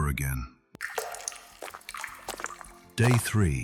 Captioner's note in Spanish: Pasos en piedra, agua goteando